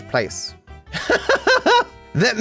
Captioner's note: laughs